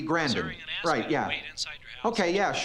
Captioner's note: on phone